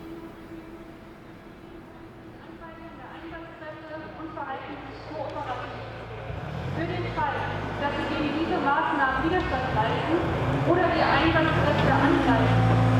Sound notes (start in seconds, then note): 2.7 announcement in the background